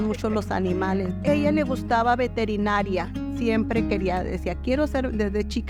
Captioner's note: speaking in Spanish